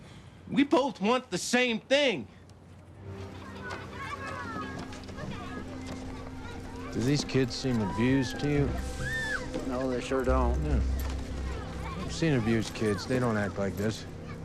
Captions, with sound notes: We both want the same thing. (children playing) Do these kids seem abused to you? - No, they sure don't. - Yeah. I've seen abused kids. They don't act like this.